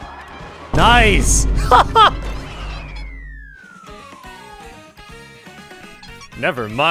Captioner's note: laughs